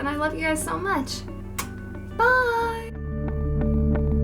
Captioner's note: kiss